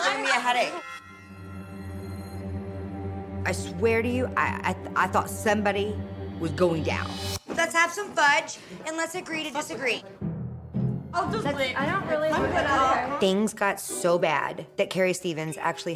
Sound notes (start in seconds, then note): 11.1 everyone talking